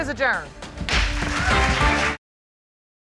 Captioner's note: audience applauds